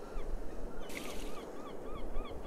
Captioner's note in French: cris de mouette au loin; bruit d'eau qu'on jette